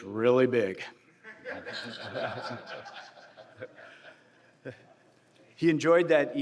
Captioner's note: laughter